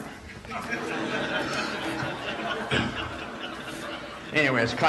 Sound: audience laughs

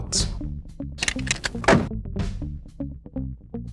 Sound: clunk Click

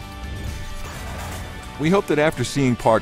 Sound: metal clanking

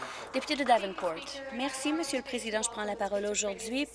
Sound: some applause

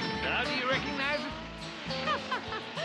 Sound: laughs

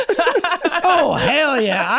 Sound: Rob and Megan laughing

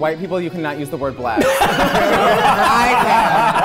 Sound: everyone laughing

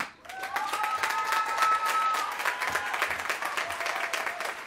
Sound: applause

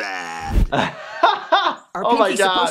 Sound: laughs

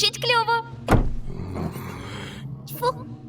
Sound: growls

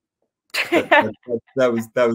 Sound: laughing

